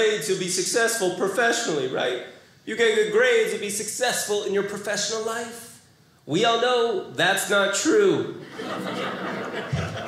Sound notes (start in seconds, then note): 8.4 audience laughing